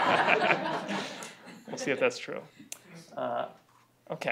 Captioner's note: laughter